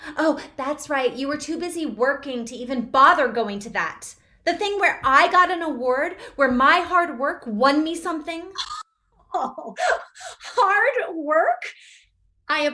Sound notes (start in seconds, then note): 9.3 mother laughing